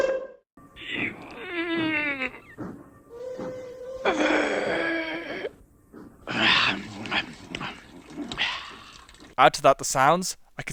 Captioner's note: grunting